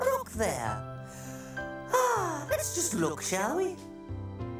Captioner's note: chuckles; sighing